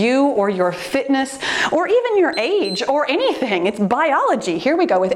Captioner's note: timer beeps